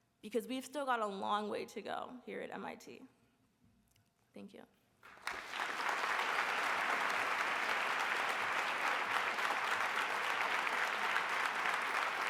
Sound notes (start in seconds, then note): 5.0 applause